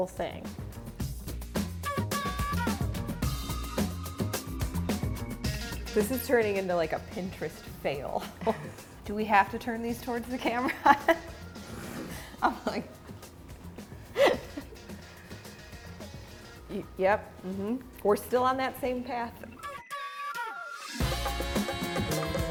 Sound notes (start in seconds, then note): 0.2 fun music; 11.9 laughs; 19.6 festive music